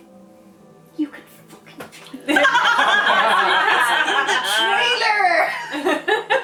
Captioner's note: laughter